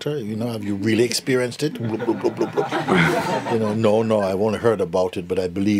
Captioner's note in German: Lachen